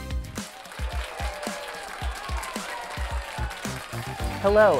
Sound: audience applauding and cheering

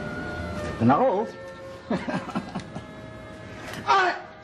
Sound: chuckles

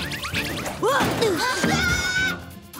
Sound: shouts; grunting

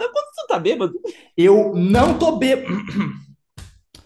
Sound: clears throat

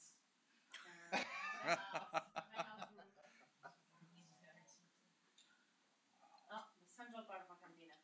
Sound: laughter

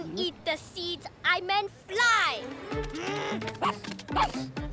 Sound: huffs; barks

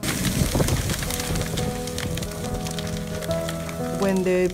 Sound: fire crackling

